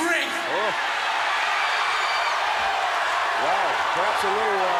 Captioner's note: crowd cheers